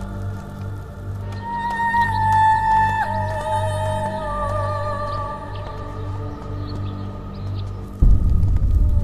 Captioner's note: gentle Breeze